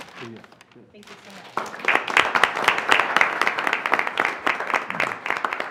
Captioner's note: applause